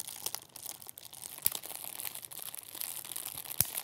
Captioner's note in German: Es knistert und knackt